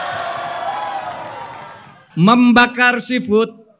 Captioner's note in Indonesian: tepuk tangan